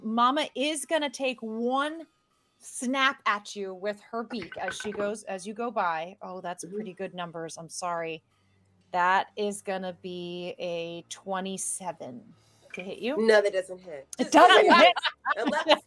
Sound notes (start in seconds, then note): 4.4 dice rolling; 14.2 laughing